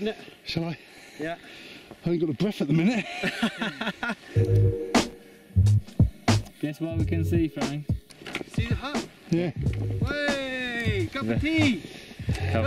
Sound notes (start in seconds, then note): 2.8 laughs